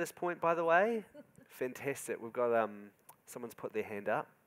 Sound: giggling

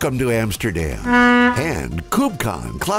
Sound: boat horn blares

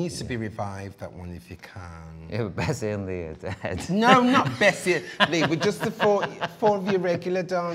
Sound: laughs

